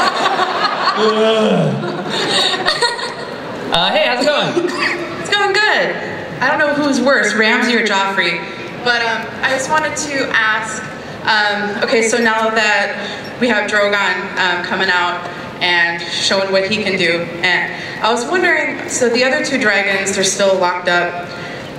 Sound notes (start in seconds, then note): 1.8 laughter; 5.1 voiceover